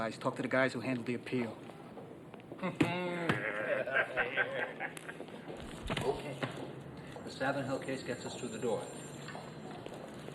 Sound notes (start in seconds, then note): 2.5 laughing; 2.6 Richard chuckles